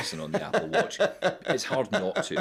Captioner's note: laughing